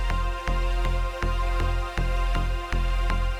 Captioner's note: none